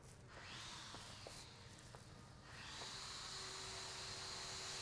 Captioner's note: power saw drills